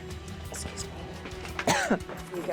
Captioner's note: coughs